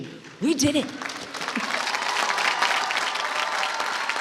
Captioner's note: applause